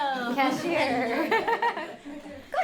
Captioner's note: laughter